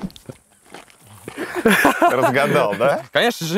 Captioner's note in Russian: смеются